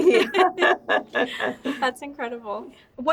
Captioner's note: both laughing